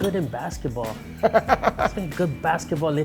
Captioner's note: laughs